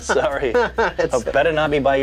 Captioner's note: laughs